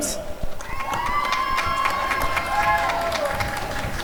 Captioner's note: applause and cheering